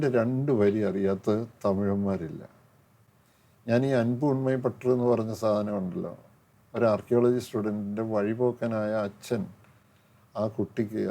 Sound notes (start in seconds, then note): none